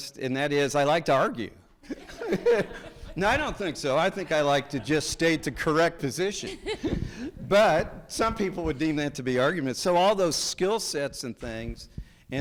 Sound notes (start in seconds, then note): 1.8 people laughing; 6.1 people chuckling